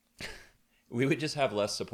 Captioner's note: chuckles